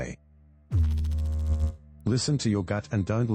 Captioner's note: electrical noise